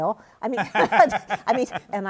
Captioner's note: laughs